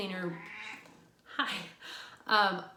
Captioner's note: cat meows